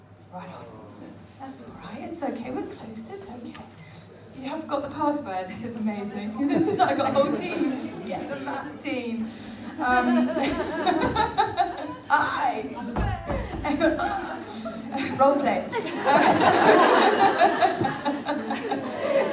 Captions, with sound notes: Right on. That's OK we're close. You haven't got the password, that's amazing. We're got a whole team. Get the map team! (laughs) Role play.